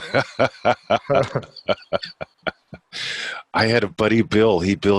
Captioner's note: laughing